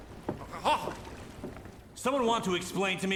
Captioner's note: Sargon stammering